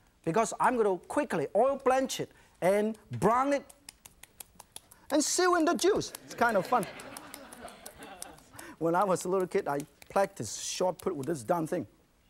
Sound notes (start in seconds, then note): 6.2 audience laughing